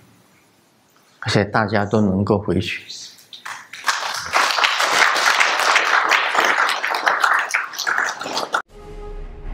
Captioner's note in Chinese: 眾鼓掌